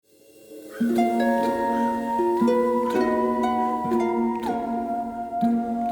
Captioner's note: slow mysterious music; crow screeching